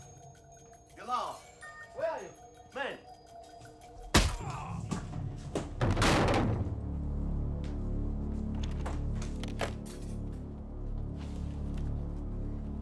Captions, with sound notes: - Dilawar, where are you, man? (thudding and grunting) (ominous music)